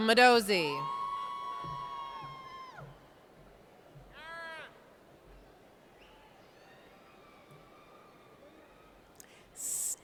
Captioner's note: cheers